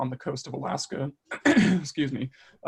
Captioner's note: clears throat